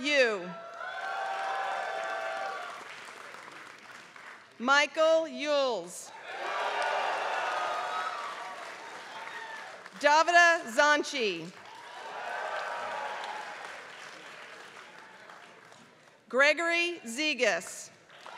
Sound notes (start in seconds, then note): 0.0 applause; 6.1 applause